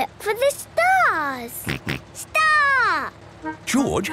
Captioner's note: snort